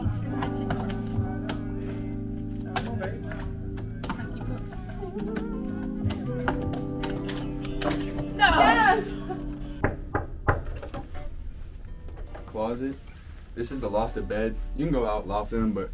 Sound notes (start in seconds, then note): 9.8 door knocking